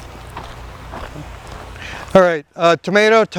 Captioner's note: footsteps thumping